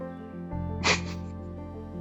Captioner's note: short Laugh